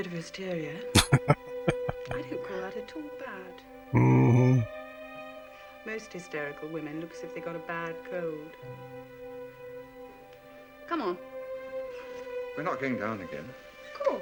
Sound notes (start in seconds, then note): 0.9 laughing